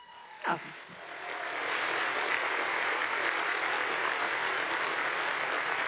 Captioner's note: audience applauds